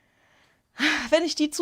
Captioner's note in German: seufzt